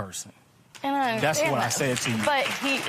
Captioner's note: applause